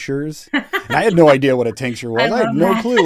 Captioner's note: laughs